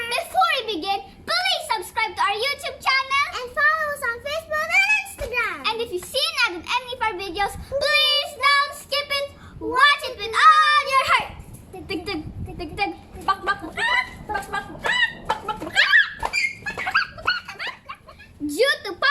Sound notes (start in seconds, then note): 11.7 heartbeat sounds; 13.6 chicken sounds